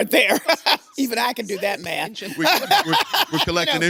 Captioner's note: laughs